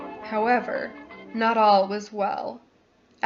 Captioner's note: sounds of crackling static